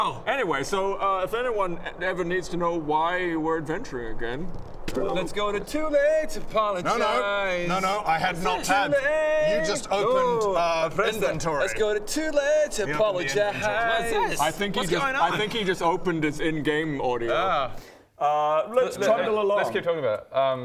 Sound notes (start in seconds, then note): 4.8 bing